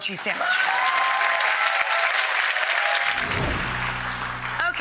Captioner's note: audience applauds